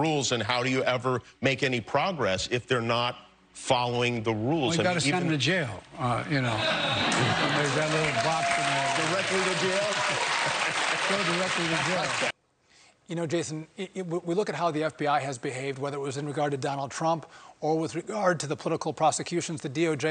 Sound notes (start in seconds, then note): 12.9 applause